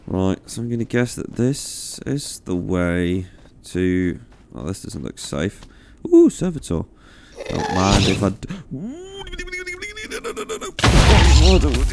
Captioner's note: Ghast noises, explosions, general panic